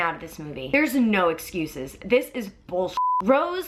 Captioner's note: beep